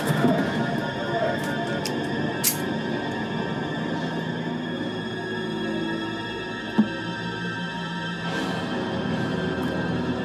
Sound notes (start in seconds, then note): 1.9 gun clicks; 4.9 suspenseful music